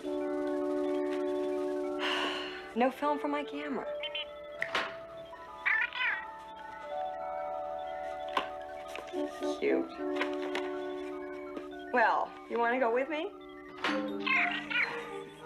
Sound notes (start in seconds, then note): 2.0 sighs; 4.5 Steve Trevor snaps his Fingers